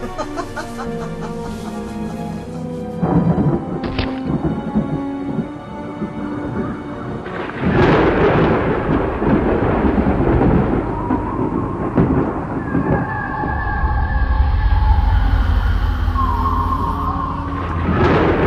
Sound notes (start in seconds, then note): 0.0 Madame Carrozza laughs; 4.6 lightning cracks; 4.6 thunder rumbles